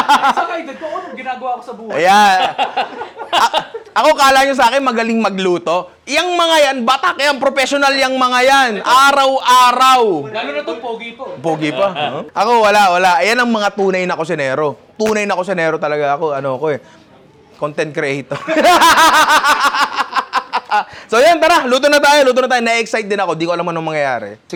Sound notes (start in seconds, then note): 18.3 laughter